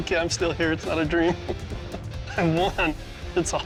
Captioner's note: chuckles